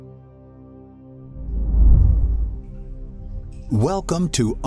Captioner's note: slow music; air whooshing